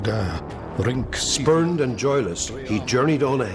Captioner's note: man speaking Old English